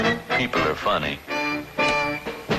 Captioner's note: blinds clicking